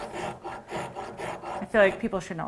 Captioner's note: rasp scratches against wood